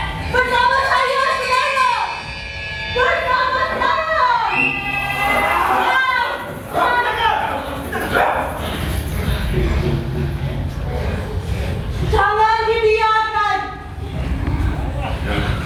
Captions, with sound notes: Stand with me, comrades! Stand with me! [ Tunggal whistle blows ] [ Dogs growling ] Bintaga! [ Dogs barking ] Do not let them get away with this!